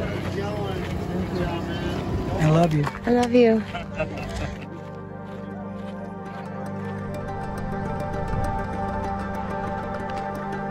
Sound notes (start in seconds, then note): 4.4 crowd chattering